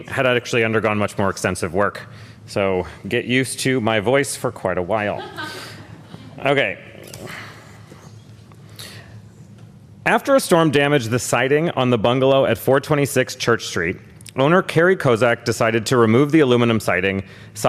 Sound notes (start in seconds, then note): 8.4 laughter